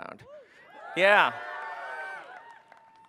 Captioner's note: cheering